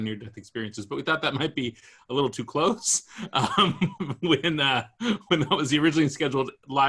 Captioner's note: laughs